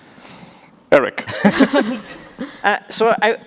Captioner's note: laughing